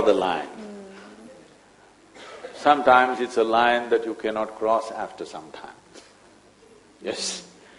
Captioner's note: laughs